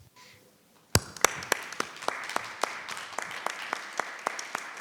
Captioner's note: all applauding